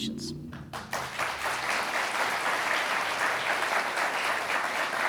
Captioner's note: audience applauds